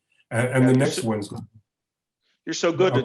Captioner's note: voice cuts out